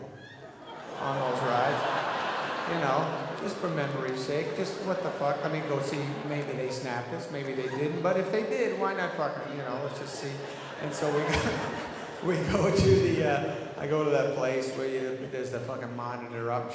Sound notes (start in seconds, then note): 0.9 audience laughing; 11.8 laughs